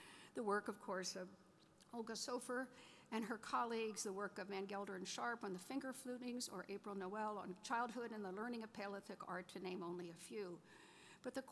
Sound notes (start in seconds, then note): none